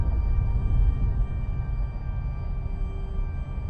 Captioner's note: low rumbling